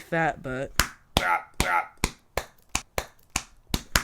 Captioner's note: slapping sounds